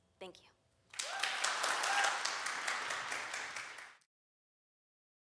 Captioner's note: applause